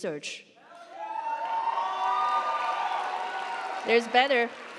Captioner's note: audience cheering; audience applauding